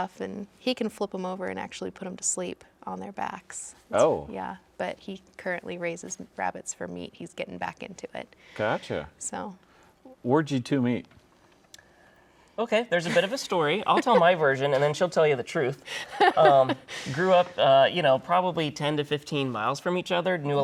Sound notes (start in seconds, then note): 13.0 laughing